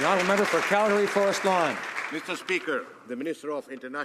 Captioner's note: some Applause